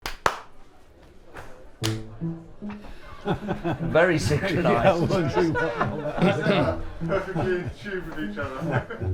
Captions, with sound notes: [Claps] [Clap] Very synchronized! Perfectly in tune with each other!